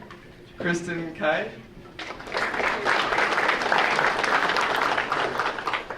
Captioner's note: audience applauding